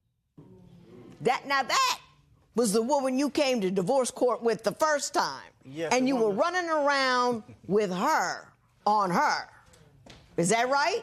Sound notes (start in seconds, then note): none